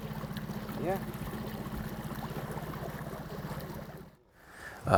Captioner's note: boat engine revving